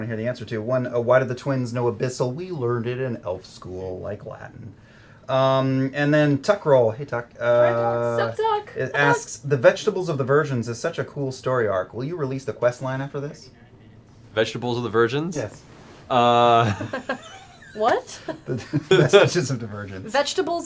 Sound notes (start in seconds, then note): 16.5 laughter